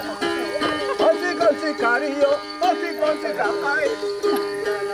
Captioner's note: chants